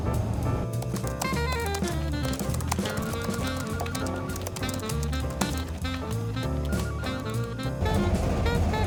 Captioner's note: background work noise - phone ringing, keyboard typing